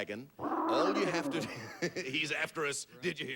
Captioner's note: dragon roars